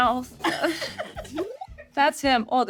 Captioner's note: Sarah and Richard laughing